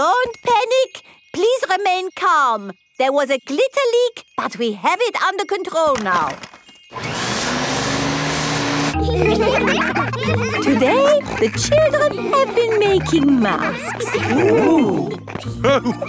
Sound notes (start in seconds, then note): 6.9 whirring; 8.9 all laughing; 15.9 laughs